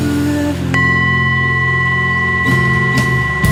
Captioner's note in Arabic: رنين الوعاء